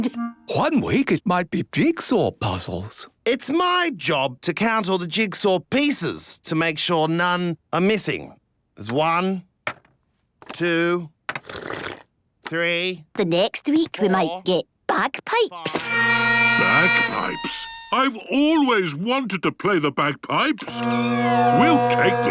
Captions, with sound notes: - One week, it might be jigsaw puzzles. - It's my job to count all the jigsaw pieces to make sure none are missing. There's one... two... (slurping) ...three... - The next week, we might get bagpipes. (dissonant music) - Bagpipes? I've always wanted to play the bagpipes! (dissonant music) We'll take them.